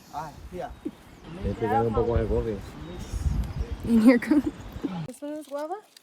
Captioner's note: mumbles and chattering among group